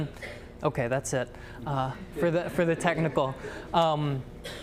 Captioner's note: audience laughter